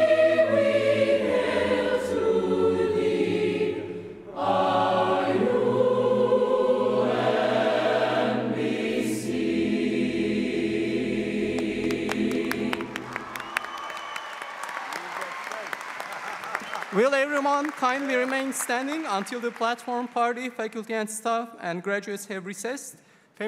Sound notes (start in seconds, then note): 16.7 applause